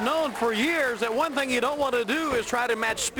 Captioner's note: crowd cheering